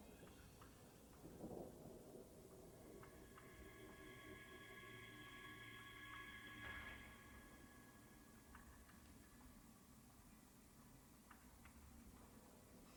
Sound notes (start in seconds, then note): none